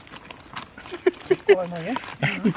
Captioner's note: laughs